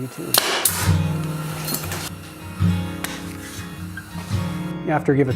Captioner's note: mechanical whirring